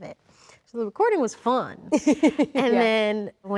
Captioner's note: Rachel laughs